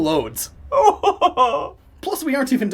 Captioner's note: crying